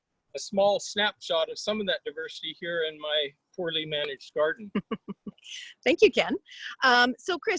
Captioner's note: laughing